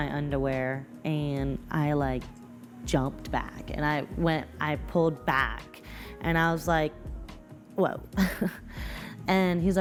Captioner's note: nervously laughs